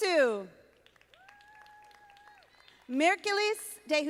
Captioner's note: audience applauding